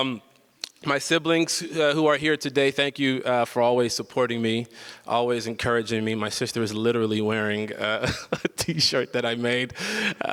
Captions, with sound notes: My siblings who are here today, thank you for always supporting me, always encouraging me. My sister is literally wearing a (laughs) t-shirt that I made.